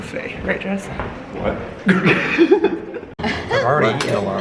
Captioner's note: lols